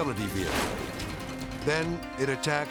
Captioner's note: elephant crashing